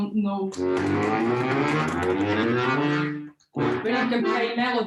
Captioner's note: bellow striking